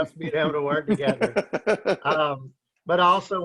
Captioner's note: laughing